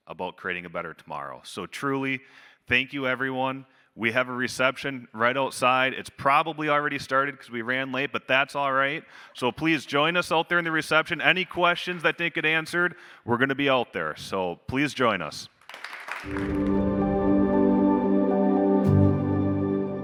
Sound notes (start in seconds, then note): 15.6 audience applauding; 16.3 gentle music